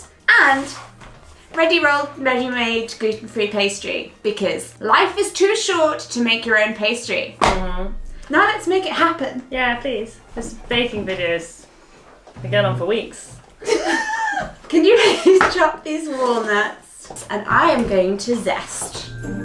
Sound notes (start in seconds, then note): 7.4 banging; 13.6 laughing